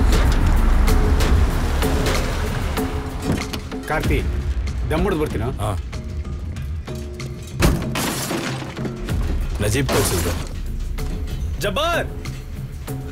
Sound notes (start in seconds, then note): 7.4 car Door Open; 7.4 breaking Sounds